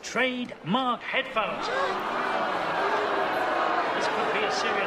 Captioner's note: crowd gasps, boos